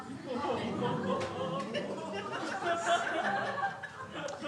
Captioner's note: crowd laughing